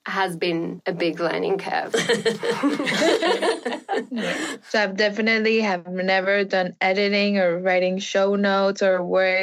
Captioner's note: laughing